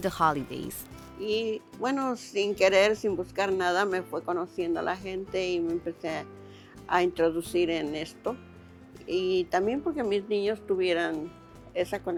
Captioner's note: speaking Spanish